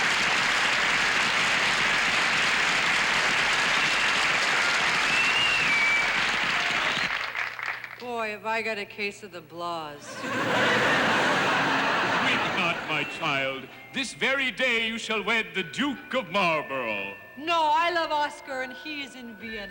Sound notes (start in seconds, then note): 10.0 laughter